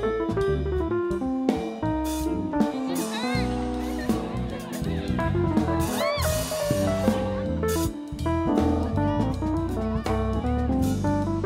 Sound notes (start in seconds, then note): 5.1 cheering continues